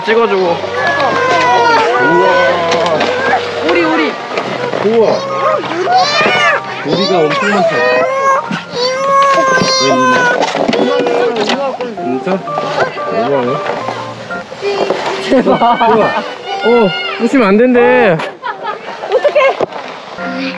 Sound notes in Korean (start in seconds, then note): 14.1 만든 아이가 부수지 말라고 소리침